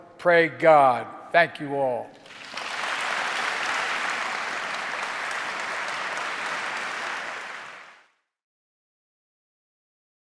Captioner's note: applause